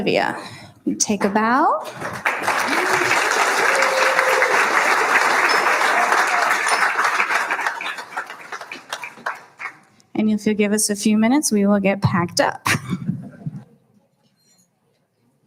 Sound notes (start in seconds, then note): 1.8 applauding